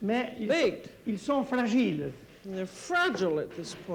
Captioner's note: speaking French